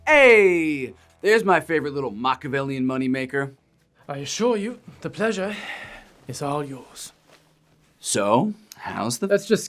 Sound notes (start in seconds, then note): 5.4 sighs